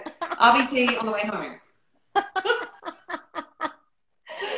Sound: laughter

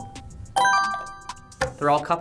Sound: bell chimes; buzzer chimes

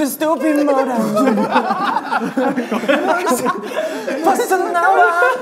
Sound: group laughter

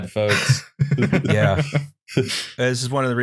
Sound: laughs

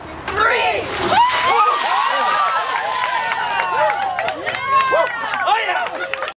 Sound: applause; squealing

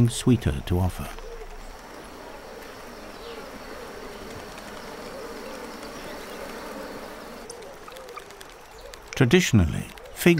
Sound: bees buzzing

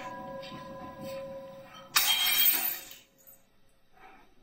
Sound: bell tolls faintly twice; glass smashes

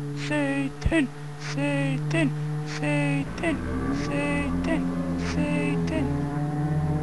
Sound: chanting

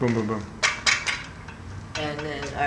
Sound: metal clanking

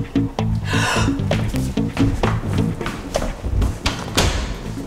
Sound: Ashley gasps

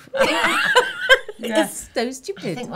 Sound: laughing

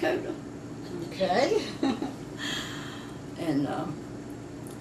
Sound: laughs

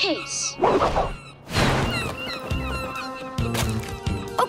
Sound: squawking

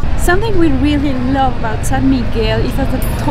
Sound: none

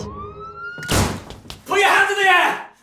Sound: whistling and door slamming

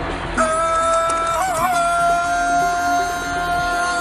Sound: Tarzan scream

